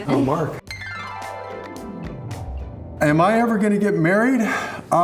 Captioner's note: chimes ring